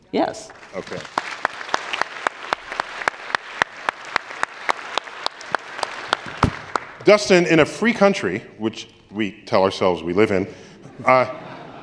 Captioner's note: applause